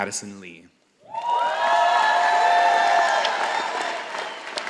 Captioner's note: all applauding